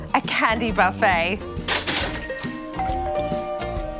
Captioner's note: doorbell rings